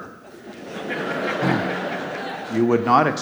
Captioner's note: audience laughs